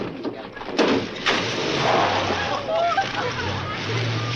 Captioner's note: engine roars